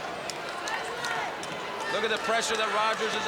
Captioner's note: crowd cheering